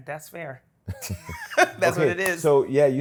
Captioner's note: laughs